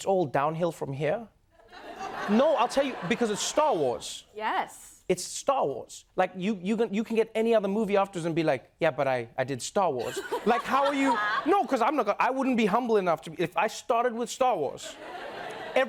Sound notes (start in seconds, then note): 1.6 laughter; 10.0 laughter